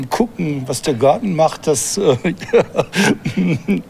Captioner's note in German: Er lacht